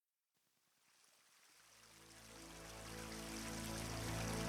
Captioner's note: water trickling